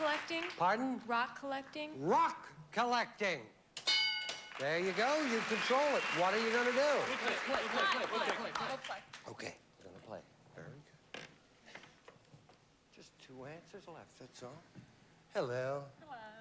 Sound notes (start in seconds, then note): 7.4 all chattering